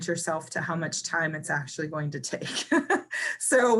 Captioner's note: laughs